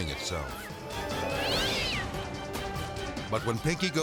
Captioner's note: Pinky yowling